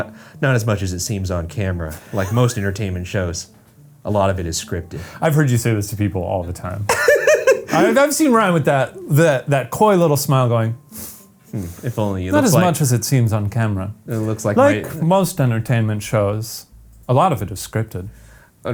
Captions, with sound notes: 'Not as much as it seems on camera. Like most entertainment shows, a lot of it is scripted.'" - I've heard you say this to people all the time. (laughs) I've seen Ryan with that coy little smile going- - If only you look like- - "Not as much as it seems on camera." - It looks like- - "Like most entertainment shows, a lot of it is scripted."